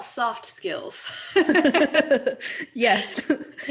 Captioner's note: laughing